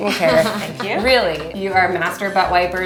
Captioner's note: laughing